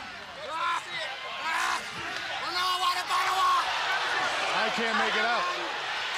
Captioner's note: crowd chatter